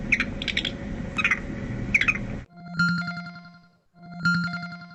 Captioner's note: video plays with sound of a monkey